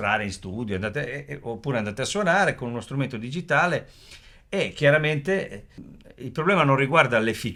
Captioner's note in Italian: sbuffare